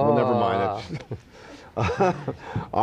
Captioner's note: they laugh